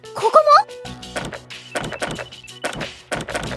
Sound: Kirijou's phone starts to ring

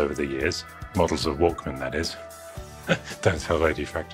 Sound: chuckles

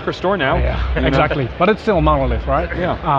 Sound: laughs

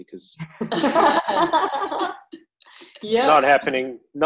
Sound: women laughing

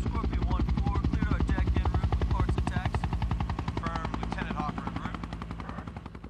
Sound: soldier speaking on radio

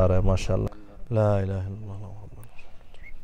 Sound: Arabic

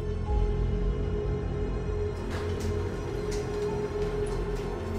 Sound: garage door

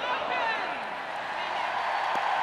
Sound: cheers and applause

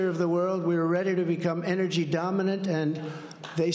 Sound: applause

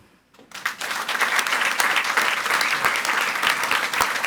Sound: audience applauds

